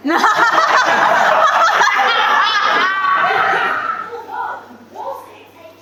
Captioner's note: audience laughs